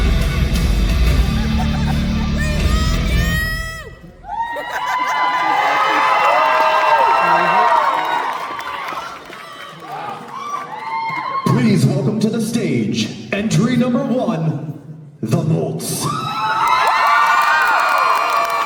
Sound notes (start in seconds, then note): 3.2 music cuts, more audience cheering